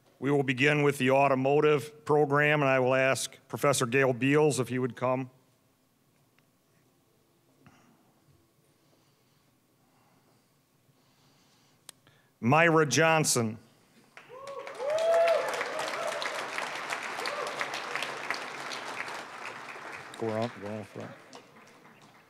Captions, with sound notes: We will begin with the Automotive program, and I will ask professor Gayl Beals if you would come. Myrra Johnson. (applause, cheering) (applause) Go around-- go around front.